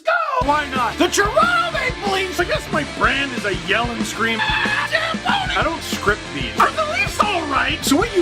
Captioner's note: rock music plays throughout intro; screams